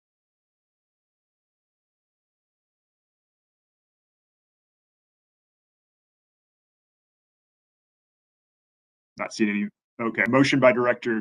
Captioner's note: A pause